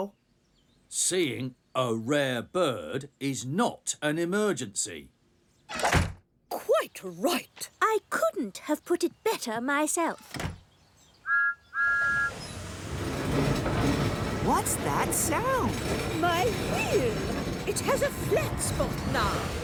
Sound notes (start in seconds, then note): 11.2 whistle toots